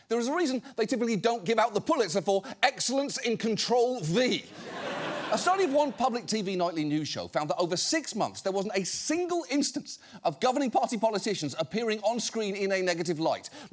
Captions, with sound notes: There is a reason they typically don't give out the Pulitzer for "Excellence in Control-V." (AUDIENCE LAUGHING) A study of one public TV nightly news show found that over six months, there wasn't a single instance of governing party politicians appearing on screen in a negative light.